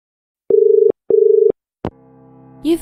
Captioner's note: dial tone